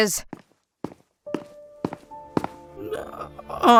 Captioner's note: walking